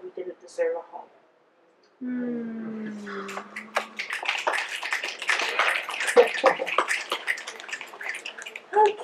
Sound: audience mms, breaths, and snaps

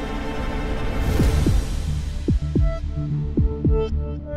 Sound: heart beating

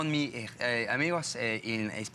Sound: foreign language

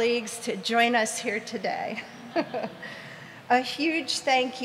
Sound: laughs

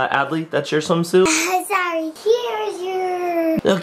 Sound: laughs

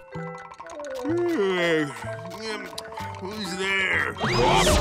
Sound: yawning; grunting

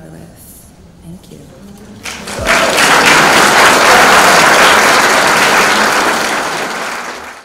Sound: crowd cheers and applauds

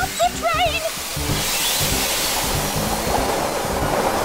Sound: steam sighs; train clacking

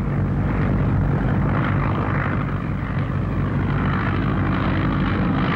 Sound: airplane propeller running

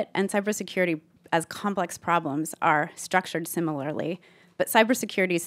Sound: none

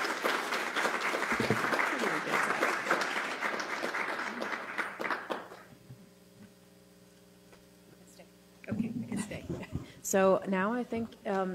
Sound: applause

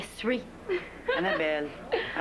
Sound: Petit rire

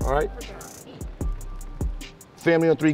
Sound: overlapping chattering

